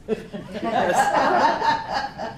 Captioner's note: laughter